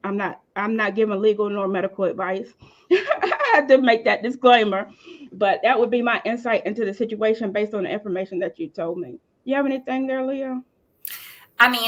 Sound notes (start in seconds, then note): 2.9 laughing